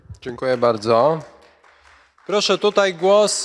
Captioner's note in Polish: oklaski